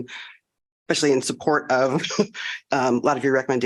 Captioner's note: laughter